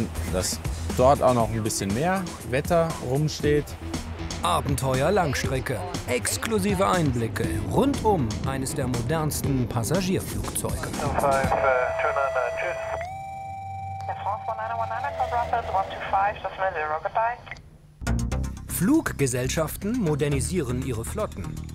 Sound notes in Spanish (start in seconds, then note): 11.5 Anuncios de radio